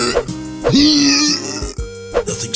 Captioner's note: retches